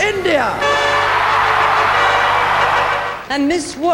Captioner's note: audience cheering